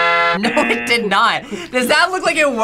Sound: triumphant fanfare; buzzer rings

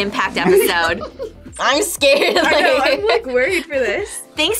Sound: laughs

